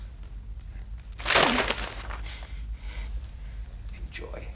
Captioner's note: Caroline gasping softly; script rustling